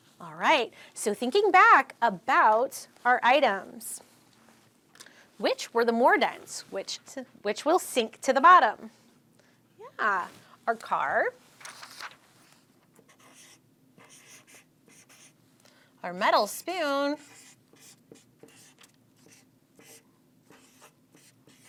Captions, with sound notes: All right, so thinking back about our items, which were the more dense, which will sink to the bottom? Yeah, our car. Our metal spoon. (marker scratching)